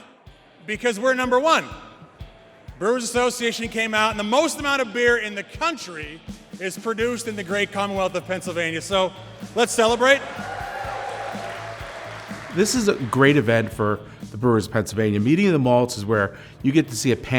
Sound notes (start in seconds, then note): 9.7 hands clap applause